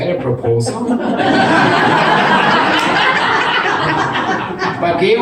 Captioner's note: audience laughs